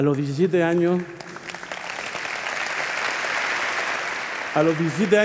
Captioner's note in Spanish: Aplausos